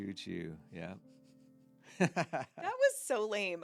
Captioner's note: laughing